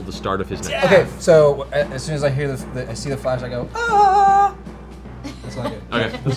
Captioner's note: yelps; laughter